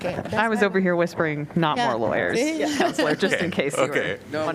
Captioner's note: laughter